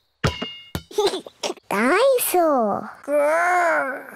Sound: giggles

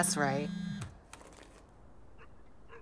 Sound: cellphone vibrates

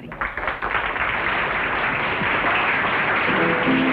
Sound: applauding; upbeat music

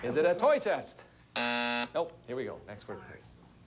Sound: buzzer sounds

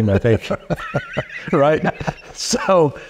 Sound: laughing

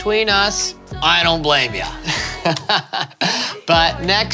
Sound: laughs

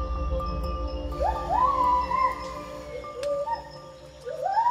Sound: animal calls

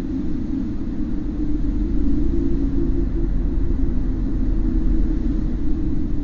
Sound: a prevailing meditative echoey noise

